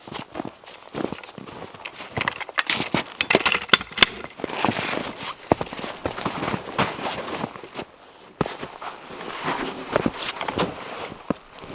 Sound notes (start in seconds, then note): 0.1 footsteps crunching; 3.6 log hook clanking; 4.7 log scraping